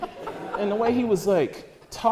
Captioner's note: audience laughter